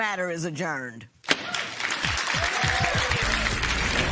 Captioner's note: applause